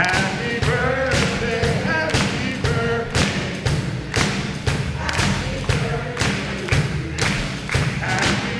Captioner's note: clapping